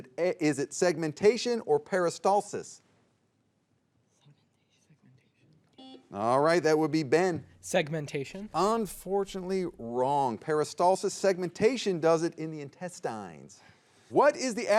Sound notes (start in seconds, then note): 5.8 buzzer beeps